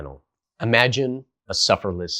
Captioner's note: beat